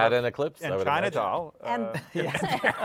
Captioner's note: laughter